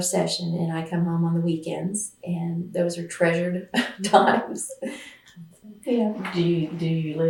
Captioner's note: laughs